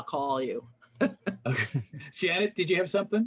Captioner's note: laughs